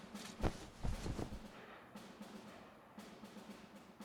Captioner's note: footsteps approach; drapes flap